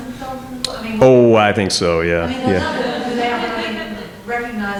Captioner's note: audience chuckling